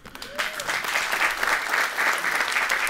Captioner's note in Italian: Applausi